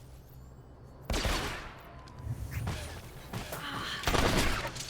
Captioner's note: gunshots